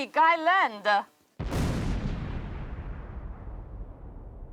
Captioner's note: boom!